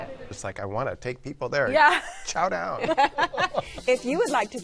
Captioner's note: laughter